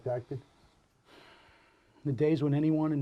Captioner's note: Dr. Hitchcock sighs